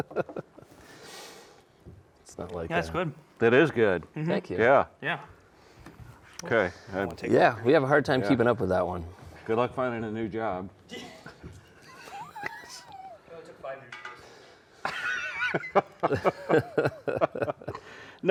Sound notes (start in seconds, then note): 0.1 laughing; 10.9 all chuckling; 14.8 all laughing